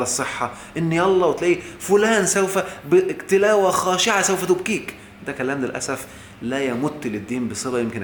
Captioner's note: sarcastically!